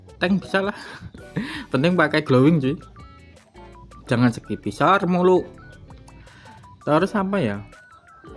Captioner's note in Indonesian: terkesiap